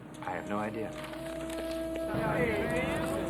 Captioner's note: paper rustles